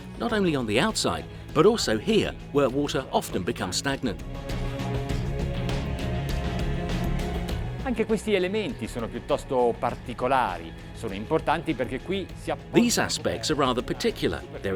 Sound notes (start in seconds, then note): 5.4 intense orchestral music; 8.3 speaking foreign language